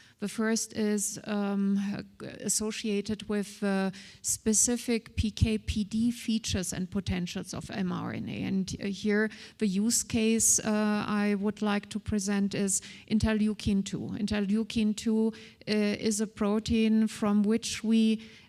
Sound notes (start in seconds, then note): none